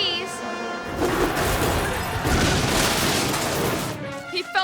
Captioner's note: car crashes